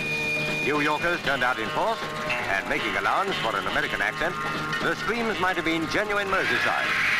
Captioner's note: upbeat music; audience screaming